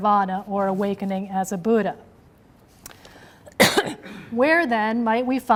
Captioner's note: coughs